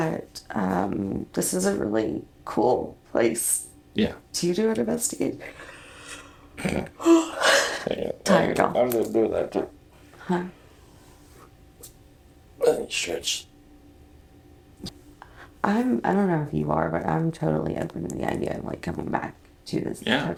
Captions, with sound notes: but ummm... This is a really cool place... Yeah. *yawn* to do an investigation. Tired y'all. Hang on. Stretch. I'm... I don't know if you are, but I'm totally open to the idea of like coming back to this hotel.